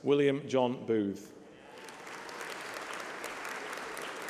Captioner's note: applause